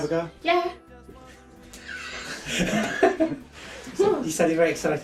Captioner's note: laughing